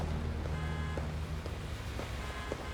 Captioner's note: car horn honking